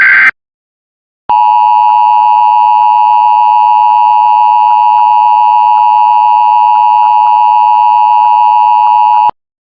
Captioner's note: 853 KHz / 960 KHz Dual Tone Attention Signal